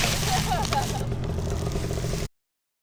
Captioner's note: engine revving